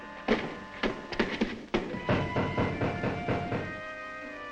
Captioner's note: men banging